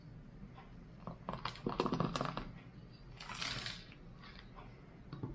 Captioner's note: coffee splashes